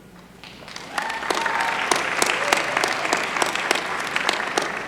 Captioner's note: applause